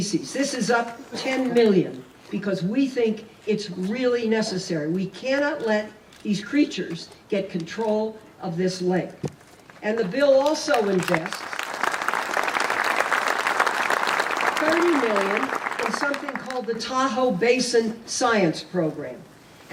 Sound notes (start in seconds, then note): 10.4 applause